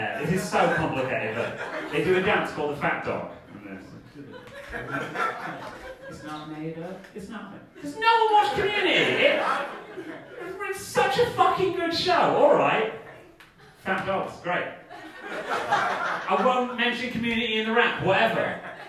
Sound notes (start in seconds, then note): 8.9 audience laughing; 14.9 audience laughing